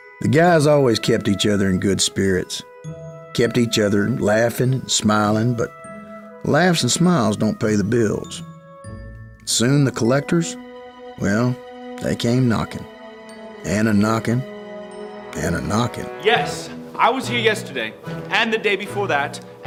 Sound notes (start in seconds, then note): none